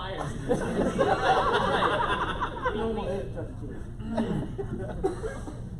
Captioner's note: laughter